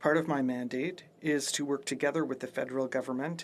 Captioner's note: speaking French